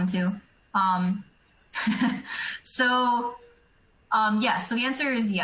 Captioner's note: laughing